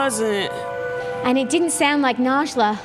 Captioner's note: shriek